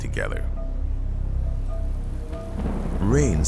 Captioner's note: thunder rumbles; rain pattering